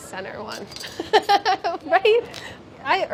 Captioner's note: laughs